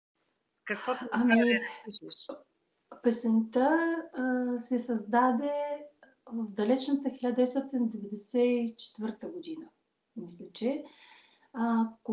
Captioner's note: foreign Language followed by English Interpreter